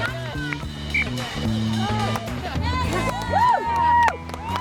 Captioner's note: shouting and cheering; whistle blowing